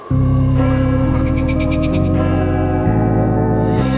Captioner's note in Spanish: viento que sopla